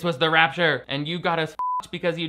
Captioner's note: beep